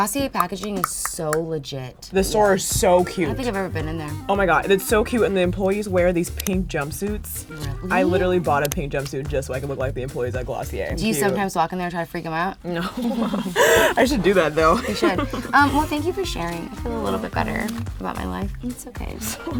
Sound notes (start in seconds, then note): 12.8 chuckles